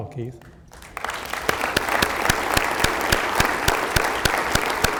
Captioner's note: applause